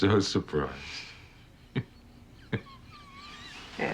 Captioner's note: chuckling; laughs